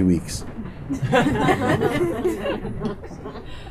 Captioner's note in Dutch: gelach